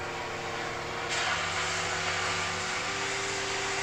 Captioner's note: metal fizzling